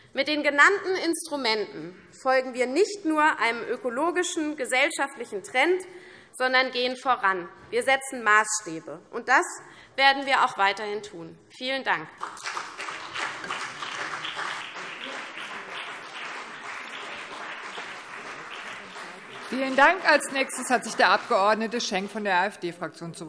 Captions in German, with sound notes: Mit den genannten Instrumenten folgen wir nicht nur einem ökologischen und gesellschaftlichen Trend, sondern gehen voran. Wir setzen Maßstäbe. Das werden wir auch weiterhin tun. - Vielen Dank. (Beifall CDU und BÜNDNIS 90/DIE GRÜNEN) Vielen Dank. - Als nächster hat sich der Abg.Schenk von der AfD-Fraktion